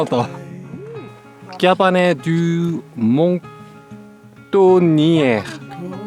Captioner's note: reading it aloud